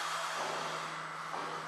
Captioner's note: hammering